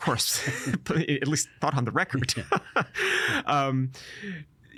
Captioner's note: laughing